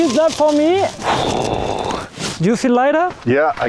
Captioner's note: blows air